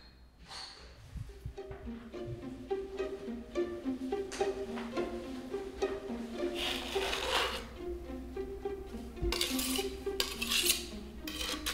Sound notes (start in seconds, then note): 1.1 inquisitive music; 6.2 knife grinds; 9.3 knife scrapes